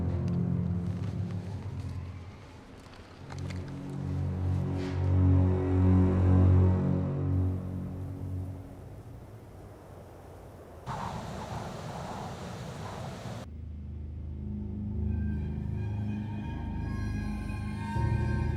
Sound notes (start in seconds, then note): 11.9 wind howling; 15.5 suspenseful music